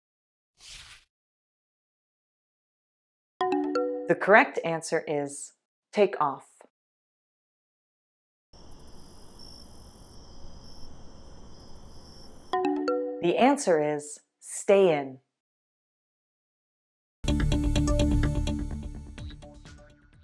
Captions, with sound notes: [swoosh] The correct answer is “take off.” [crickets] The answer is “stay in.” [dance music]